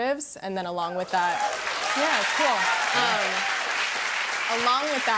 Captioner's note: cheers and applause